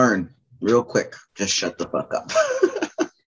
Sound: laughter

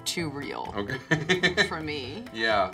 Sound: laughs

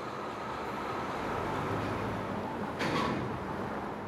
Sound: cars passing

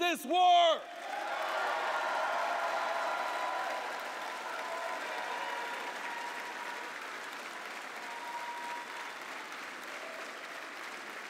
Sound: applause

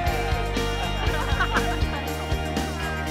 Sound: laughter

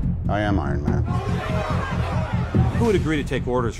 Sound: clamouring

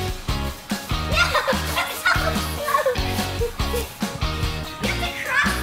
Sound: upbeat music; laughing

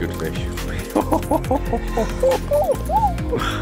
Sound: laughing

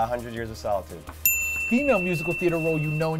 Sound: dinging

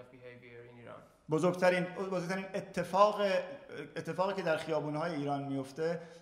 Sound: speaking in farsi

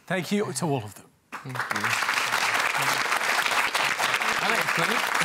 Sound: applause

